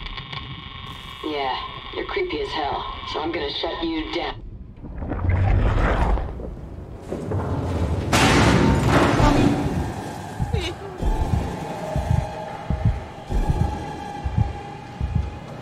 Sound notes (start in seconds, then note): 4.5 watery gurgling recedes; 8.1 massive slam; 10.1 metal scraping; 10.4 whimpering